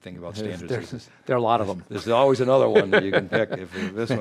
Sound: laughs

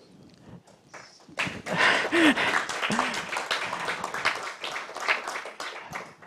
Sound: applause

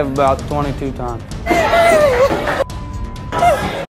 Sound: cries

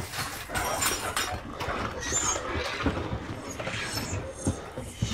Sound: objects clattering

